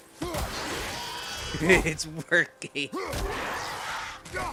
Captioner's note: chuckles